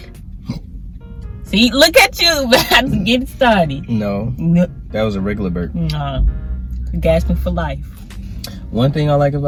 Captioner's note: burps